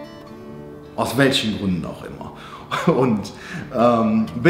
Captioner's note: giggles